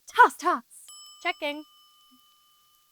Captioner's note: bell dings